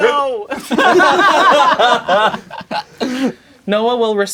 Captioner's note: crowd laughing